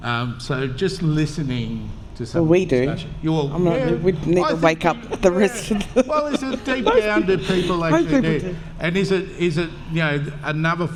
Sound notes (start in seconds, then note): 5.8 laughter, crosstalk